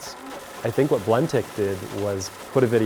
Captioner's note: blender grinds